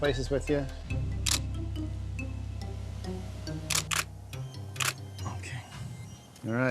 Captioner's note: camera clicking